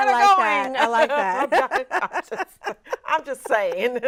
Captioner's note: laughs